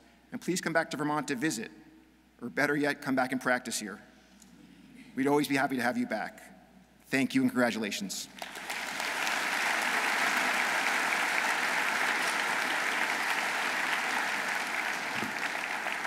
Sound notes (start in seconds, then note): 8.3 audience applauding